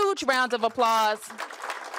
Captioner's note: applause